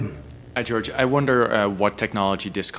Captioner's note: voiceover